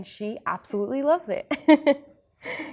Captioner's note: laugher